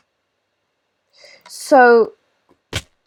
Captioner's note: frustrated sigh